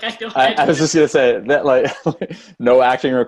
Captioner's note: laugh